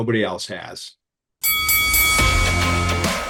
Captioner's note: bell ringing; upbeat music